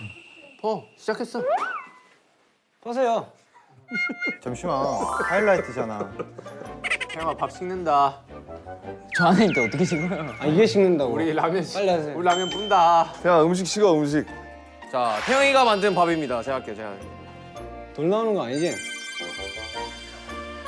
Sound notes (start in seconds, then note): 5.8 Tertawa